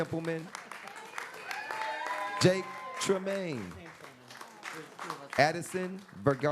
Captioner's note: applause